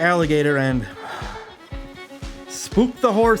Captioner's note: sigh